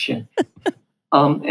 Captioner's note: laughs